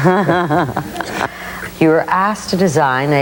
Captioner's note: laughing